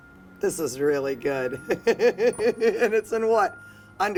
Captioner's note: laughing